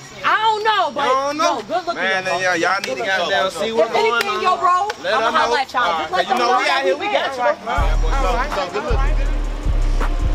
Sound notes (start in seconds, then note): 6.9 crowd